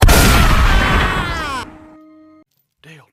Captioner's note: gun Shot; Dale Screams As He Dies In Pain